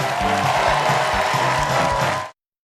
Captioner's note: cheers and applause